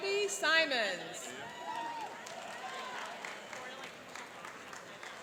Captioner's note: cheering and applauding